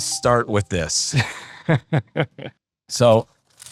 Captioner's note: laughing